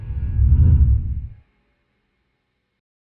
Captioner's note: air whooshing